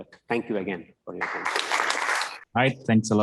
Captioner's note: applause